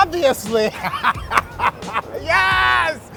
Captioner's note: laughing